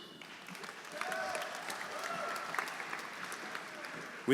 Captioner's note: audience applauding; audience cheering